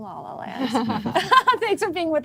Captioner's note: laughing